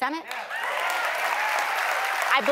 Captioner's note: cheers and applause